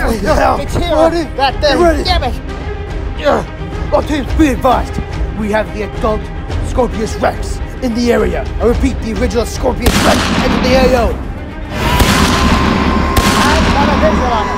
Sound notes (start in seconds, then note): 0.0 commotions; 11.8 guns firing